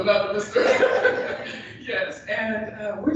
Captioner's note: laughter